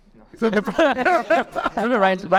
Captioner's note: everyone laughing